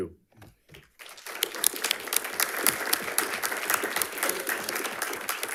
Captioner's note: audience applauds